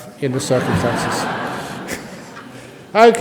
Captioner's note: laughter